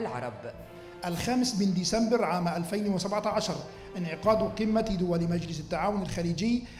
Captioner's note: male speaking in foreign language